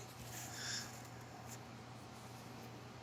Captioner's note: sighs